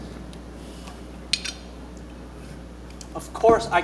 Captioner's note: object clinks